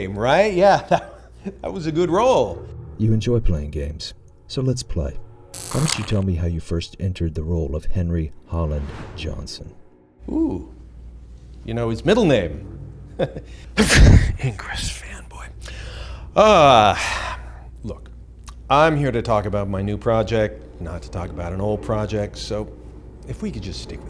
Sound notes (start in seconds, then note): 13.8 sneezes